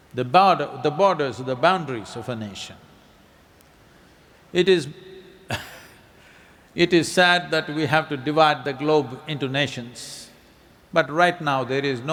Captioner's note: laughs